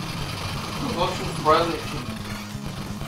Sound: whispers from the otherworld

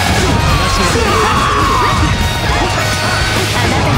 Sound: KO scream

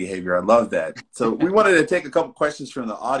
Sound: laughs

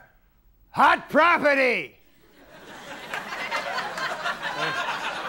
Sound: audience laughing

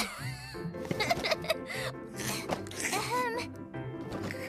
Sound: Alice Giggling

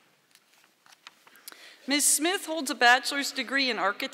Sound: none

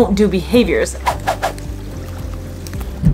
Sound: background music; rapid whooshing sound effects; background music; gentle water lapping noises

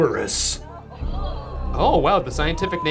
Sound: audience gasping

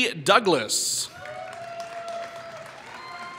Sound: applause

